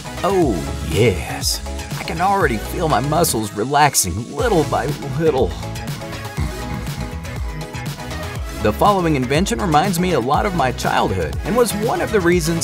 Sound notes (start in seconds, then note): 5.7 snoring